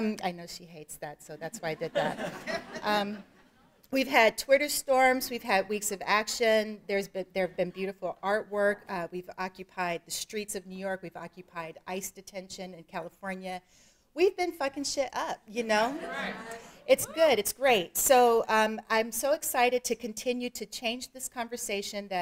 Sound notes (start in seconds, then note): 1.7 audience laughing